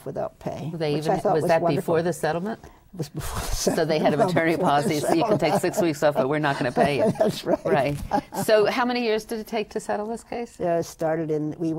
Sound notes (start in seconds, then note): 0.9 laughs; 3.4 laughs